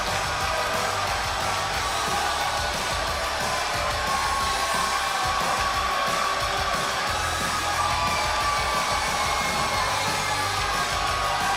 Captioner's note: crowd cheering